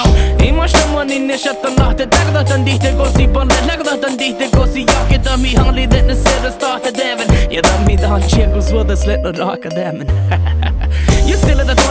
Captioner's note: haha